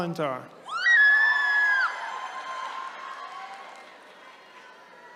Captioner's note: attendees cheering